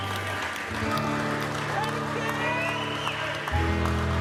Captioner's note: crowd cheers